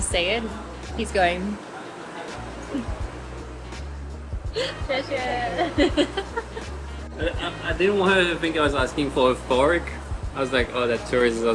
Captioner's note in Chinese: 笑聲